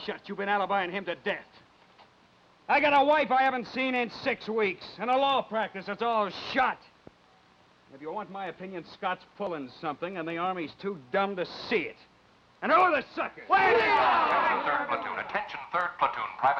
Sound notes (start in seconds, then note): 13.6 in Unison; 14.7 voice On Loudspeaker